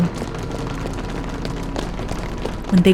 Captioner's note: fast footseps